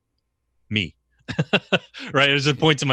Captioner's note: laughs